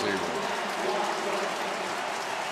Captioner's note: cheering; pa announcement